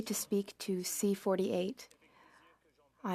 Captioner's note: speaking French